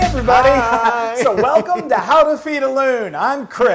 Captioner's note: laugh